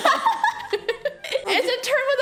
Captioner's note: laughs